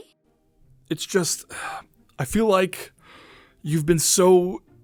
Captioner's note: sigh; breath in